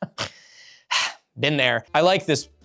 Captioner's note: chortles; sigh